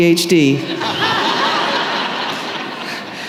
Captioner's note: laughter